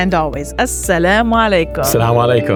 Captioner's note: speaks Arabic